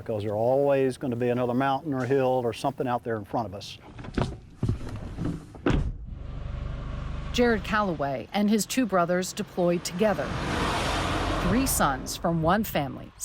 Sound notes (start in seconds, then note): 4.0 car pulling off; 4.7 door shutting